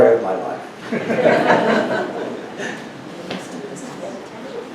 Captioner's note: audience laughs